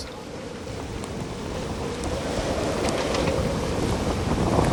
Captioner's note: winds blowing